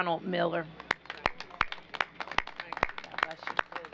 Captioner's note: applause